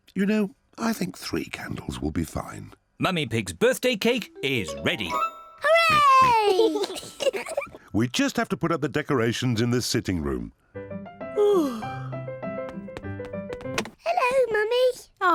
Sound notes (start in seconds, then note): 5.7 oinks and giggles; 11.3 yawns